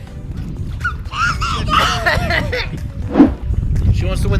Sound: screams

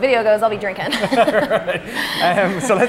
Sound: laughing

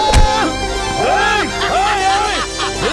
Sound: laughs

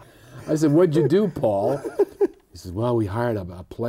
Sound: laughter

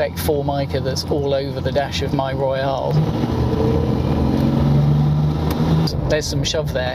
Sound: engine noise

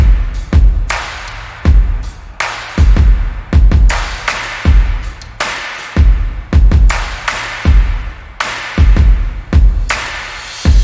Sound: applause

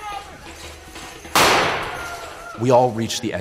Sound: people shouting; gunshot

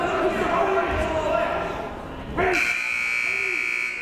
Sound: buzzer ringing; shouting

